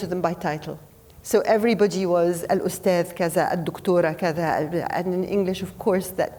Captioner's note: speaking foreign language